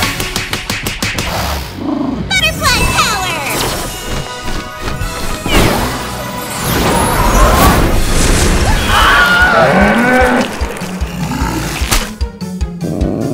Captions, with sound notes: [slapping] Butterfly Power! [screaming]